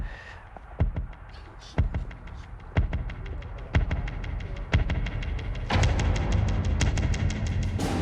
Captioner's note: tense heartbeat